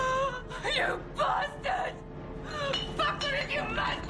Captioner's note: sobbing